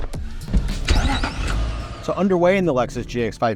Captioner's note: engine turns on